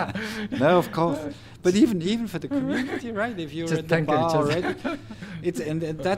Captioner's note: cười